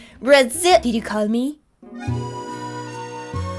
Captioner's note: french